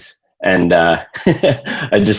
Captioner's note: laughs